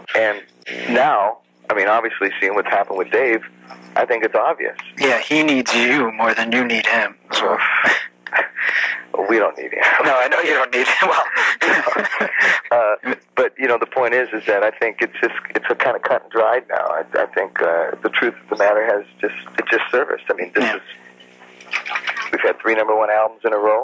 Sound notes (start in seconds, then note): 9.7 laughs; 9.8 chuckles